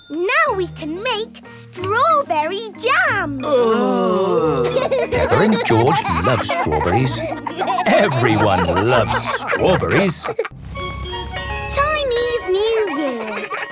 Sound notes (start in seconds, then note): 3.4 groaning; 4.0 laughing